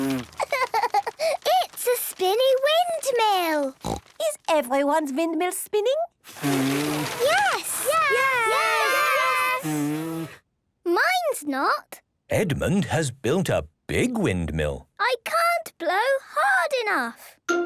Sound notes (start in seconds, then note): 6.2 blowing, fluttering; 10.2 blows